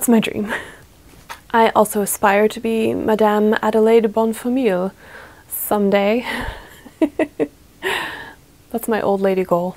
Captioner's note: laughs